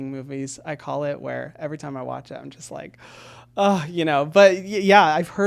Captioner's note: gasps